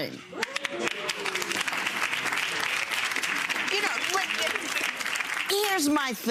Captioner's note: audience applauds